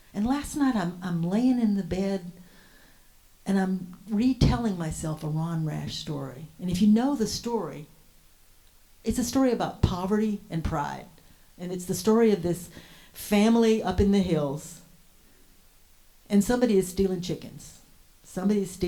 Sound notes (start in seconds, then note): none